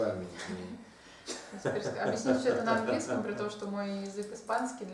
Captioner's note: hahaha